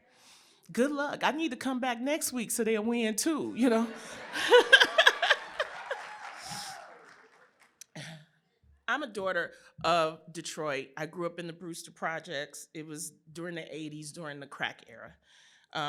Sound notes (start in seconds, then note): 3.8 laughter; 4.3 applause